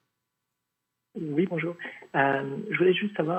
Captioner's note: speaking French